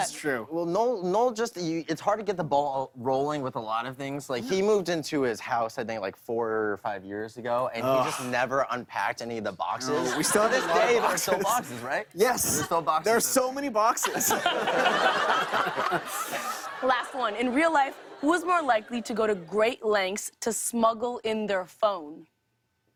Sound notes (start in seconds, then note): 14.0 laughter